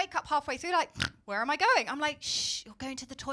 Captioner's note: snorts